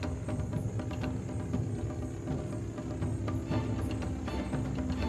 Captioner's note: airplane engine buzzing